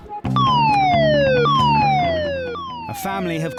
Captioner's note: siren wailing